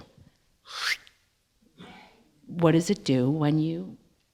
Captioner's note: whooshing noise